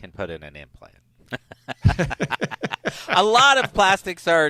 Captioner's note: both laughing